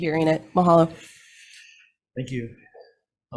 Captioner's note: speaking in foreign language